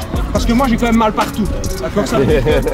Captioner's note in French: Rires